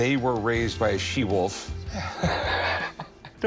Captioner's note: chuckles